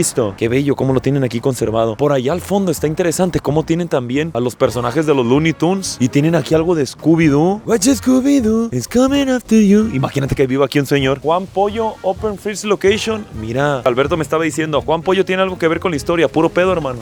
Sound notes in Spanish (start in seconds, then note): 7.5 Canta en Scooby Doo